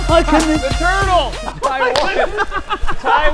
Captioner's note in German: gelächter